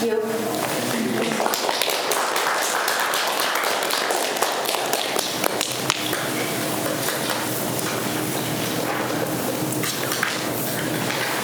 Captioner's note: students applaud